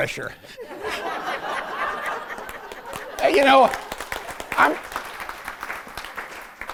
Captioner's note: laughter and applause